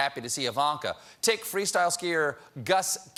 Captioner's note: none